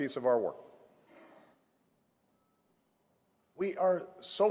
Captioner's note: none